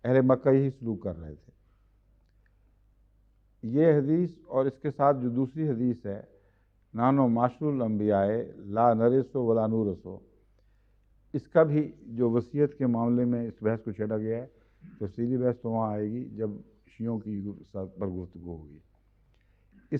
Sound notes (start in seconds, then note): 10.0 Arabic